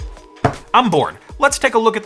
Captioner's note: hand thuds